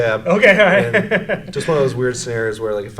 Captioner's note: laughs